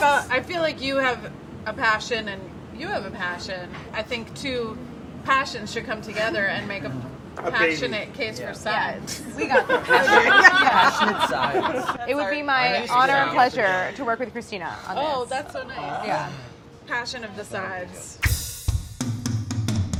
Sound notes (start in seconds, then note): 9.1 group laughing